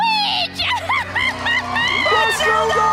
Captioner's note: Rancilda laughing and audience applauding